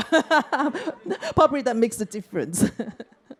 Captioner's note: laughter